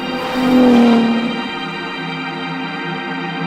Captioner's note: engine revs; enigmatic music continues